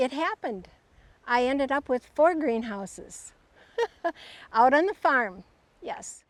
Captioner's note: laughs